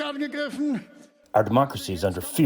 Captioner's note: through translator